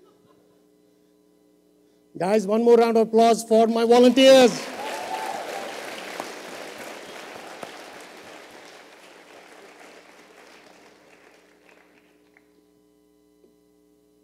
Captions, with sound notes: Guys, one more round of applause for my volunteers. [Applause and cheering].